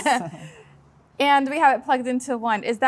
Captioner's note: laughing